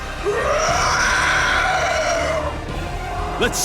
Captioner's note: monster roar